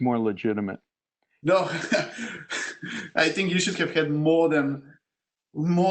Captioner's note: laugh